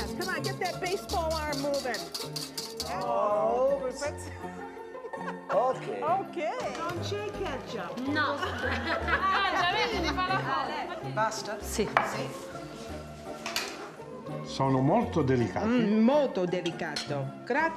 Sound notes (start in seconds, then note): 7.8 speaking Italian